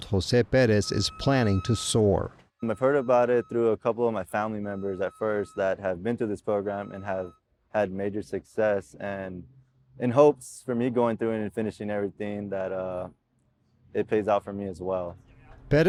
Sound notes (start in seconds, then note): 3.5 signal beeping